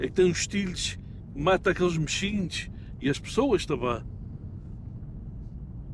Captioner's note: group speaking in foreign language